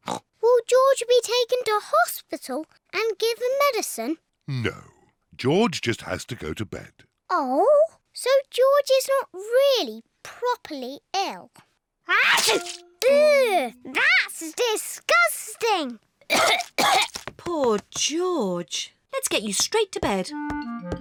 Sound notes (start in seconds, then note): 0.3 oinks; 12.1 sneezes; 16.2 coughs